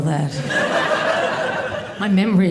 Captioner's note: audience laughing